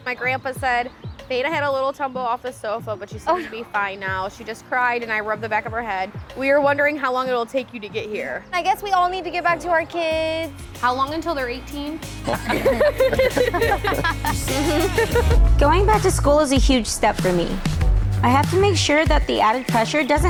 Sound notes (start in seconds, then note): 12.2 everyone laughing